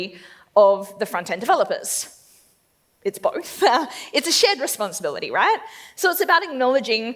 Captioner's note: laughs